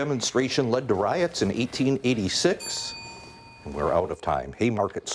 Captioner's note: bell dings